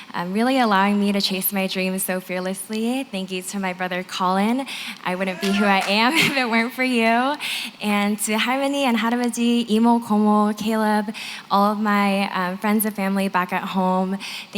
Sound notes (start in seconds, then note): 8.5 non-english